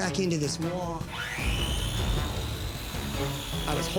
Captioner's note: whirring